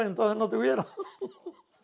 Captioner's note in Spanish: ríe